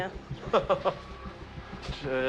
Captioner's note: laughs